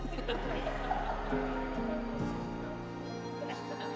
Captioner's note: everyone laughing